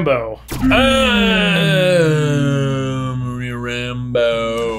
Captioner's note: grunting